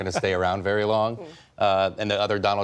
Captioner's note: laughter